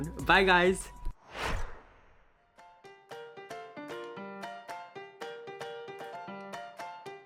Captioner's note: screen whooshing; lively music